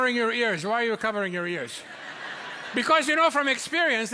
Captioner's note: audience laughs